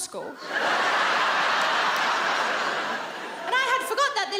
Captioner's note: audience laughs